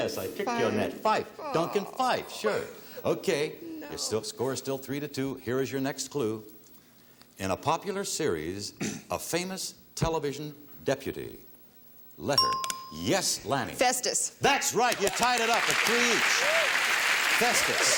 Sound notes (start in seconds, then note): 13.5 ting; 14.8 applause